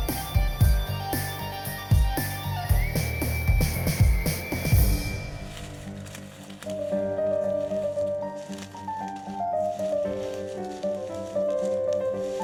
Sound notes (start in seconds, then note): 6.2 foliage rustling